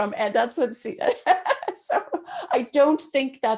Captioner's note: laughs